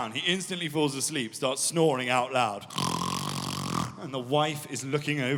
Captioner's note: snoring